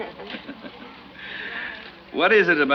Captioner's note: laughs